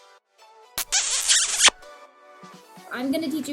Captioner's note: smooch